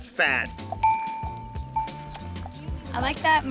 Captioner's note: bell jangling